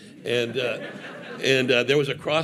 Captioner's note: audience laughing